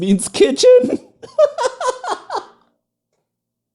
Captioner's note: laughter